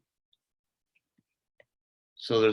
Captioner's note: silence